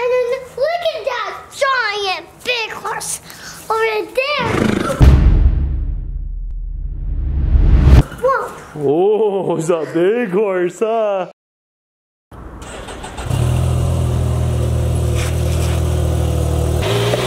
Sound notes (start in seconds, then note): 4.4 horse neighs; 13.2 motorcycle engine roaring